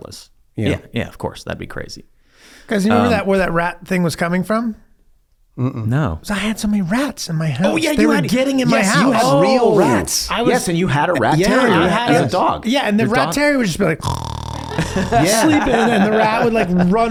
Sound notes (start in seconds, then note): 14.0 snoring; 14.5 laugh